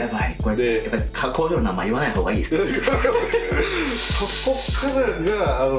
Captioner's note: laughs